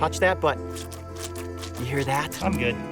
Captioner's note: gloves squishing